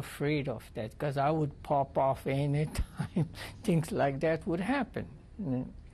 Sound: laughs

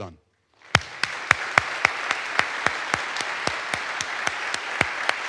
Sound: audience applauds

